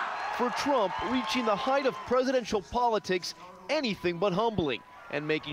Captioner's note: chanting "president trump"